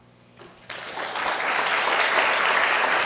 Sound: applause

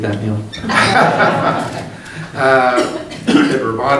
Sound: group laughing

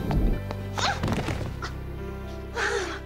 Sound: pan clatters; yelps; sighing

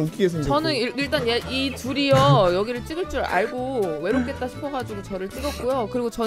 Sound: holding laughter

